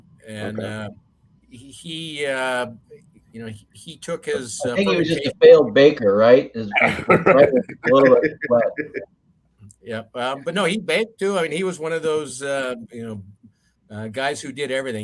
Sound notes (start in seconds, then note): 6.8 all laugh